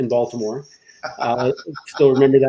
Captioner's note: laughs